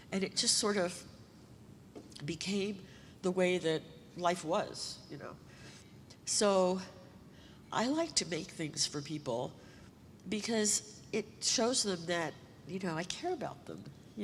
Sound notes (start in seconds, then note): none